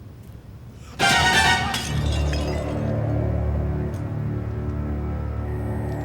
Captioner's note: dramatic crescendo; glass clinking